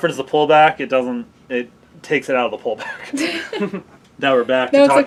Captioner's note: laugh